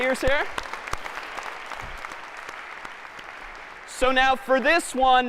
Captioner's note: applause